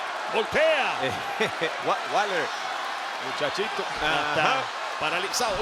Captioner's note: laugh